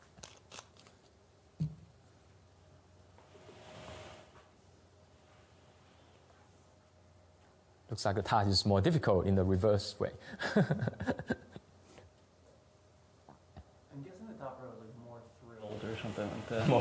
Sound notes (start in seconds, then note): 10.3 laughter